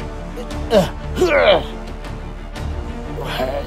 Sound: struggle Sounds

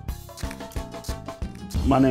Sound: camera shutter clicking

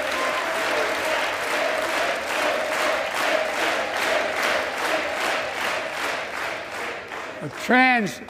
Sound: applause

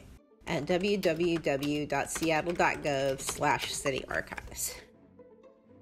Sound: typing on computer keyboard; background music concludes

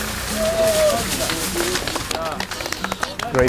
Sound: applause and cheering

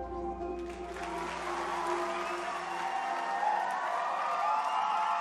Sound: audience applauding

